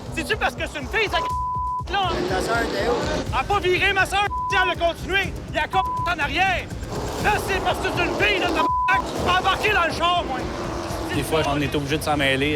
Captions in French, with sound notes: C'est-tu parce que c'est une fille, [bip], là? - Ta sœur, c'est où? - Elle a pas viré, ma sœur, elle a continué! Elle a [bip] en arrière! - C'est parce que c'est une fille, [bip]! Tu peux embarquer dans le char, moi! - Des fois, on est obligé de s'en mêler.